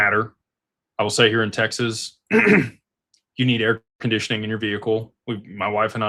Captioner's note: clears throat